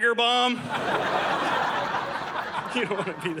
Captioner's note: audience laughing